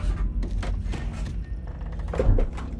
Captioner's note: door creaks